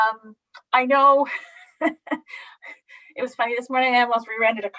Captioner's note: laughing